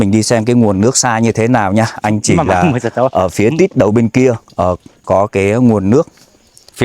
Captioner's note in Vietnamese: hắng giọng